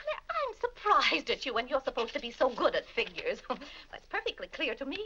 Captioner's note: laughs